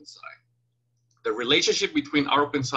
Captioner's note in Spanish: click